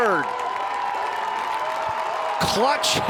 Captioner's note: crowd cheering